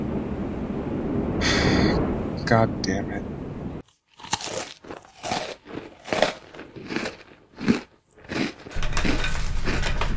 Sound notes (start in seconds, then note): 1.4 sigh; 3.8 crunching noises